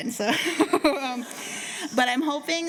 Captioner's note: laughter